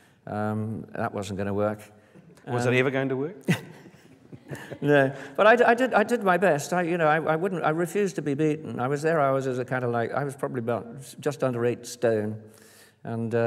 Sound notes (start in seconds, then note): 3.4 Richard: laughs